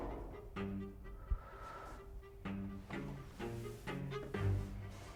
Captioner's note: door thuds; Mrs. Macaw exhales deeply; dramatic music